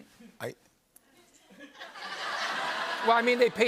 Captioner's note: laughter